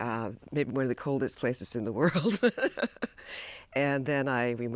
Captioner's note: laughs